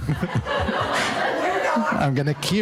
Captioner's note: audience laughing